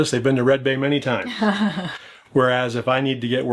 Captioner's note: laughs